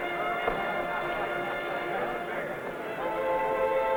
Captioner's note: people chattering